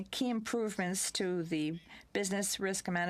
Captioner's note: speaking french